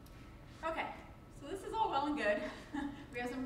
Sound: chuckles

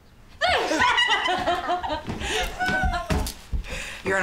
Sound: laughter

